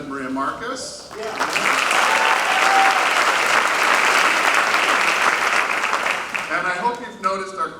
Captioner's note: applause